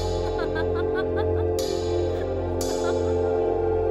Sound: laughter

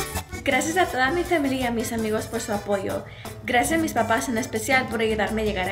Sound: speaks in foreign language

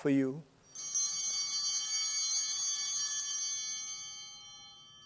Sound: chimes ringing

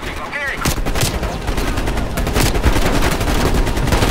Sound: gunshots

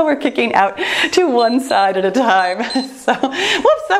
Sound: timer beeps

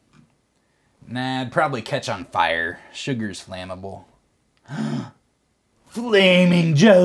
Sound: gasp

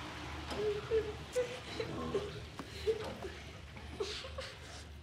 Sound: crying

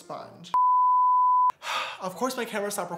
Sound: beep

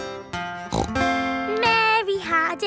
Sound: playing guitar; snorts

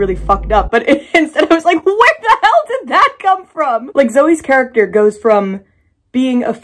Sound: laughing

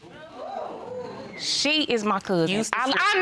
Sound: audience exclaiming

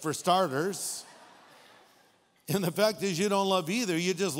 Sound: audience laughing

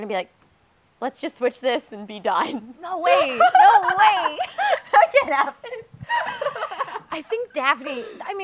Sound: giggling

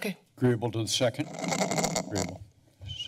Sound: mic scratch

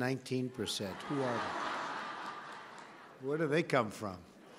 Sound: laughter

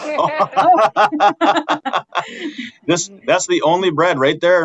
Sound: all laughing

